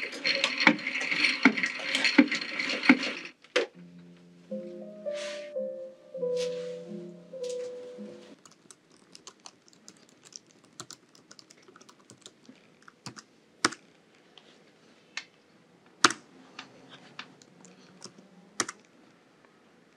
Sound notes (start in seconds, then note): 0.2 machine arm turning sound; 8.3 keyboard sound